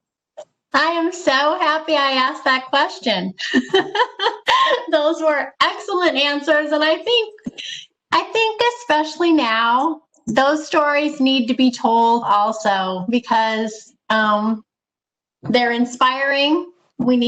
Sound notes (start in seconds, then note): 3.4 laughs